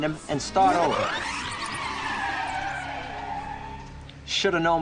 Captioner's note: tires screeching